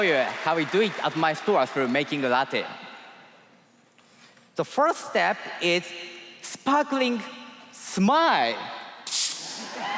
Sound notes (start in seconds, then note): 1.6 cheers and applause